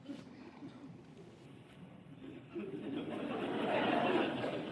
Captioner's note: laughter